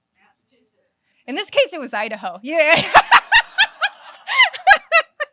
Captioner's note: laughs